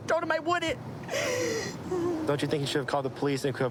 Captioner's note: sobbing